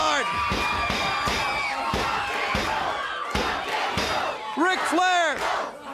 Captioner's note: crowd cheering